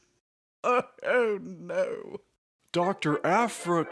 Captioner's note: painful laughter